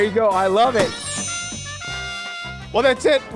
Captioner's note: chimes